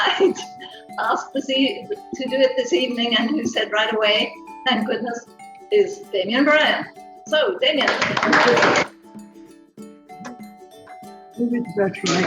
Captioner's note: clapping